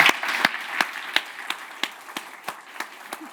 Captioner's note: audience applauding